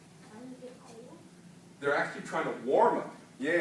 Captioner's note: child answers quietly